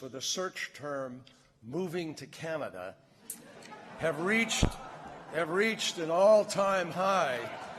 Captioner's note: applause